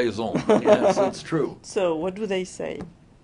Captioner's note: laughter